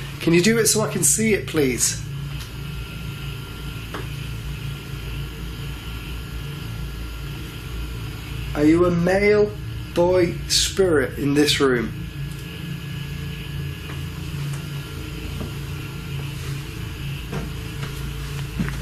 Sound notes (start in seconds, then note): 14.2 shuffling sounds